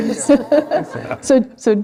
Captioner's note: laughs